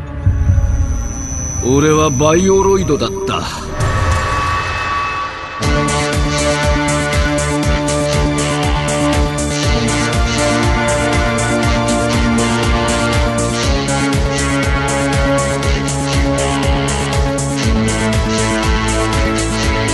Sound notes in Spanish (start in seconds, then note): 1.6 voz robótica